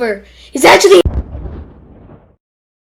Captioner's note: booom!